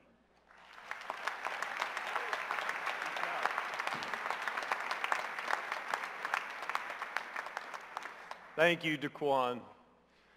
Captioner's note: applause